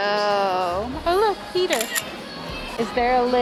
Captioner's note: camera click